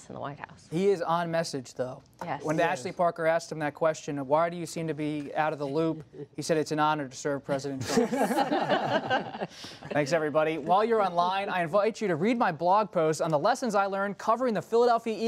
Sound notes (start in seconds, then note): 7.8 laughter